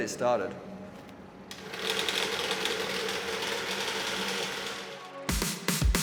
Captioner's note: machine starting up